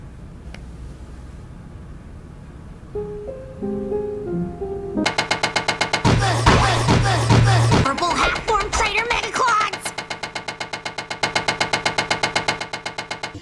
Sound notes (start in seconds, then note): 5.0 weird Steven noises; 5.1 slappin'